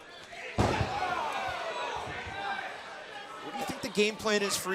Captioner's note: crowd chatter